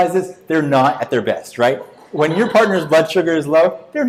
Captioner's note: audience laughs